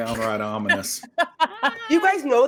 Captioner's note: laughing